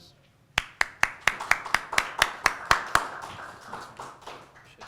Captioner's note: audience clapping